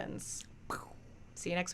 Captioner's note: mimics explosion